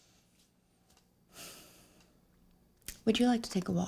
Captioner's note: sighs